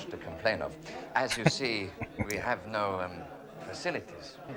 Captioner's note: chuckling